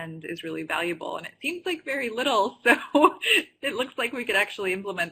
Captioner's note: laughs